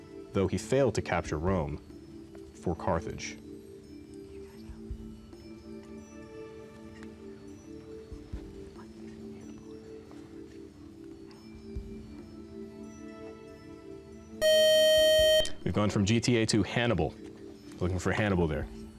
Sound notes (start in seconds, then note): 4.2 whispering; 14.4 time-out buzzer